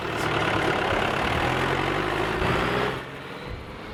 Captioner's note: tractor revving